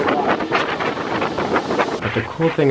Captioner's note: wind blowing